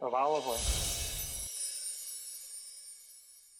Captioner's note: wind chimes